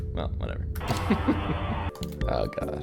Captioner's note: laughs